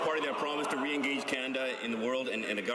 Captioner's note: some applause